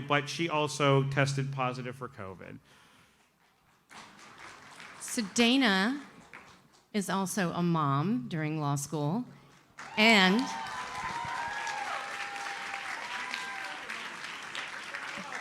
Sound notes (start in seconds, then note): 9.7 audience cheers and applauds